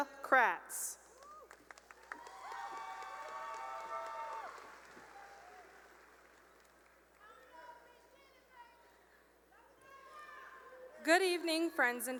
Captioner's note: cheering and applause